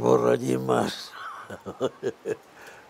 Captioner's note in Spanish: ríe